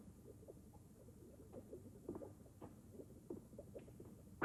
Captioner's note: liquid burbling